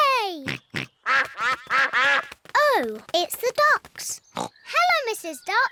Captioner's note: quacking